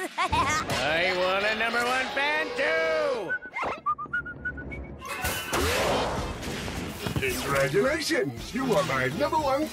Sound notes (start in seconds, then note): 3.2 mailman whistles